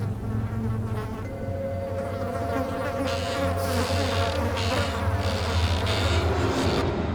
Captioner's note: rocking chair creaking; flies buzzing